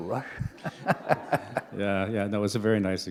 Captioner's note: laughter